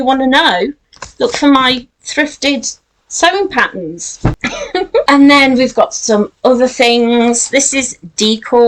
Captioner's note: laughs